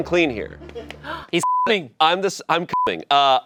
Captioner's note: beep